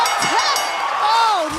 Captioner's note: bell ringing